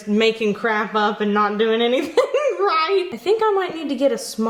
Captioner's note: chuckling